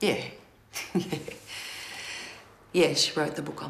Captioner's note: Gina laughing